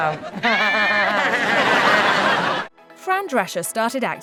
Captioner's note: laughing